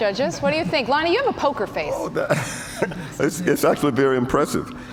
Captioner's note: laughs